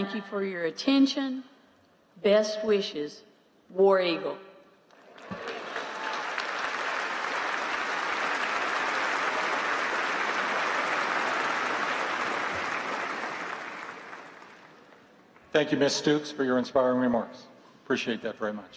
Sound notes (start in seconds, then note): 4.9 applause